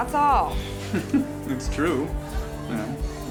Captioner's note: laughs